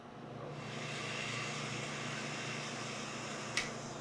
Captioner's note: blender whirring